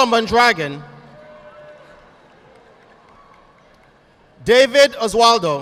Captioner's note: audience applauding